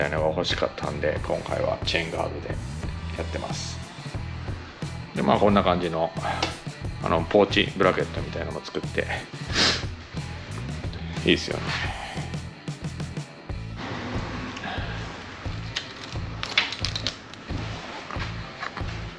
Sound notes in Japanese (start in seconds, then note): 9.4 鼻息